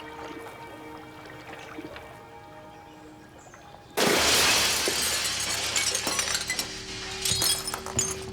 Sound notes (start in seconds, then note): 4.0 glass crashing